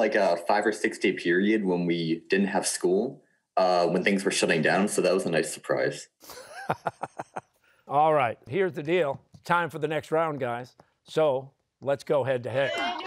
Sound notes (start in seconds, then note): 6.2 chuckles